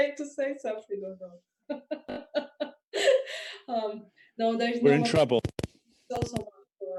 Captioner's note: laughter